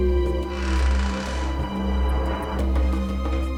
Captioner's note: door creaks